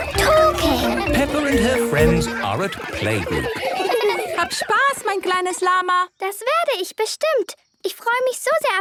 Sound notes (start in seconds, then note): 3.8 laughter; 3.8 speaking German